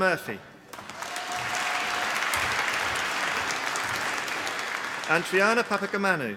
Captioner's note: applause